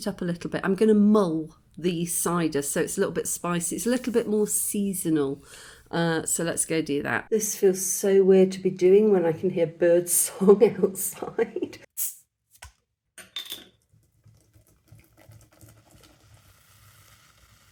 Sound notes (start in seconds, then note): 10.4 laughing; 12.2 bottle hissing open; 14.5 foam fizzing